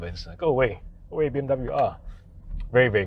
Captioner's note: speaks in electric car language